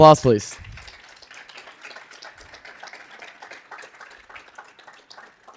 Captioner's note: audience applauding